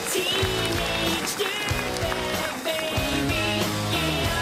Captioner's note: applause